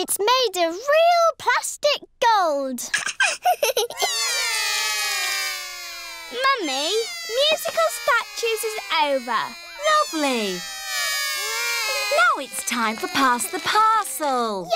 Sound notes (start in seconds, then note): 3.0 laughs; 4.1 all cry